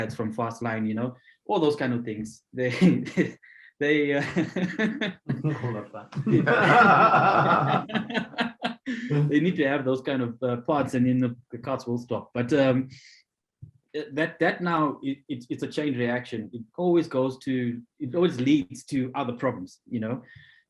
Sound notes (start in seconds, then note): 4.2 laughing; 6.1 all laughing